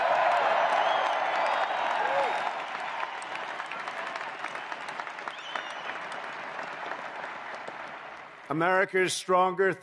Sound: applause

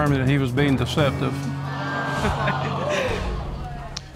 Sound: audience exclaiming

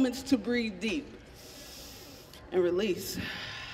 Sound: inhaling deeply

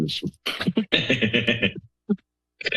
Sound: laughter

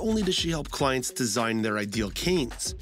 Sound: voiceover

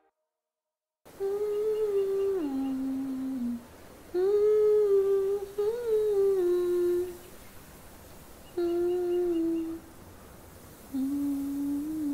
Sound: humming

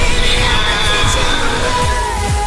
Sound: screams

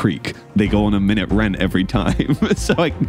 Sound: laughs

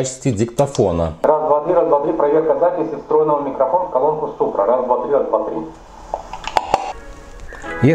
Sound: voice recording sounds through the built-in microphone

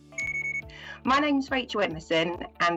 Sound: beeping

